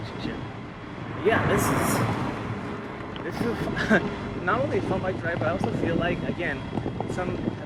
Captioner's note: laugh